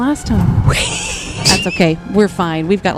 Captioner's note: laughs